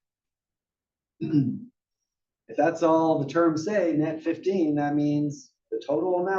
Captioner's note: cough